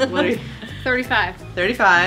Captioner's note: laughs